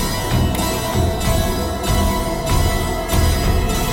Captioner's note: clicking